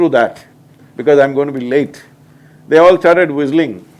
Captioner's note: none